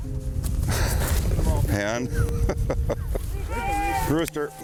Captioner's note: laughs